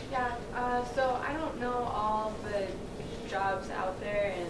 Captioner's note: woman's Voice